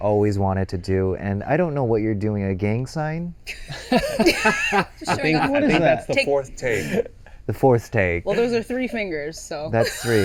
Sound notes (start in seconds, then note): 3.7 laughing